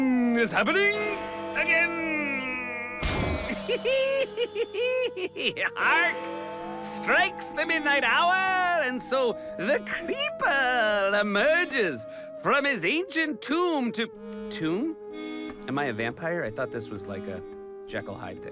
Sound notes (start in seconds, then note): 3.4 laughs